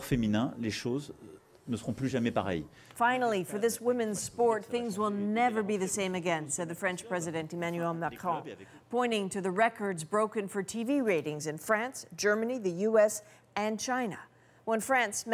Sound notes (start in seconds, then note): 6.8 speaking French